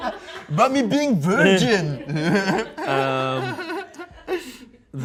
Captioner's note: everyone laughs; laughs